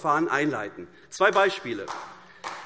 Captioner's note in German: Beifall AfD